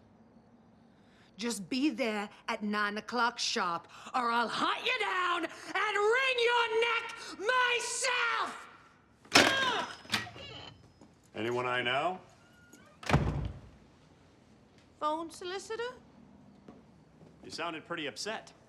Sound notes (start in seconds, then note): 9.3 door creaking open; 9.3 yells; 12.6 door shuts